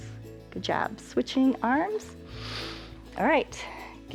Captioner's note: inhales